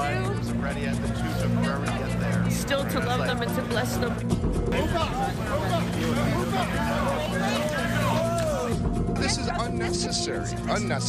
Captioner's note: sounds of protestors